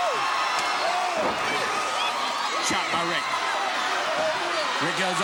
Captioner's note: blows thudding